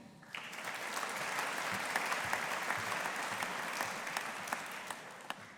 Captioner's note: audience applauding